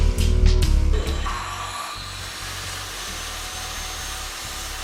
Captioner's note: saw screeches